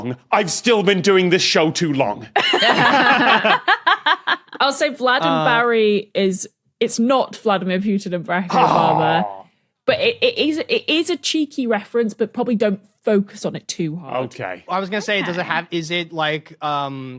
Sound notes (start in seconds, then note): 2.3 guests laughing